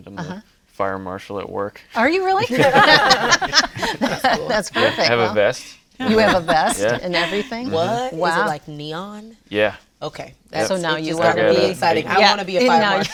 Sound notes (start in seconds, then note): 2.4 laughs